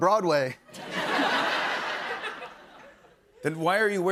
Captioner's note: laughter